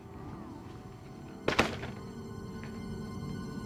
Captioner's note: door creeks open